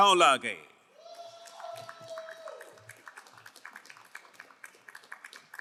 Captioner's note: crowd cheering and applauding